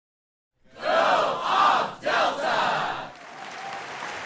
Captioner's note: crowd; crowd applauds